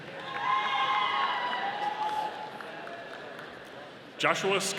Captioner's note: audience cheering